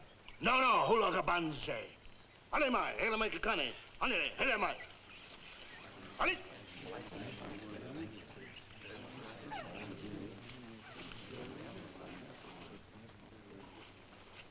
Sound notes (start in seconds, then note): 1.3 father speaking in foreign language; 6.3 men chattering faintly